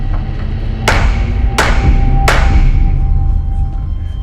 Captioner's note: gavel banging